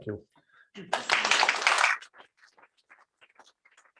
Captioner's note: applause